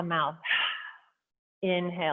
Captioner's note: exhaling